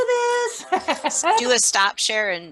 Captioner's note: laughs